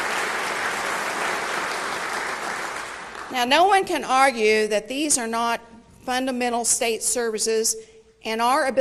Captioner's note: applause